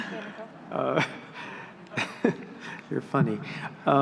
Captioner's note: laughing